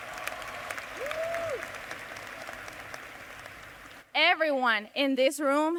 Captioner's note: cheers and applause